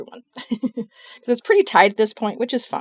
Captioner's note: laughs